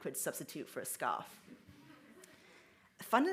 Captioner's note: audience laughs